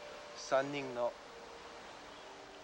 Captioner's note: speaking foreign language